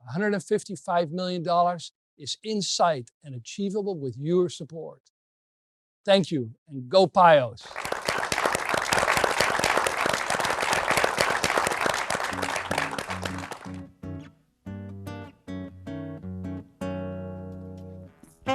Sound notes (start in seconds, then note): 7.6 applause